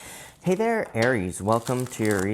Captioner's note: cards shuffling